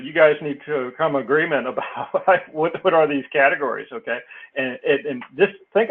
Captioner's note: laugh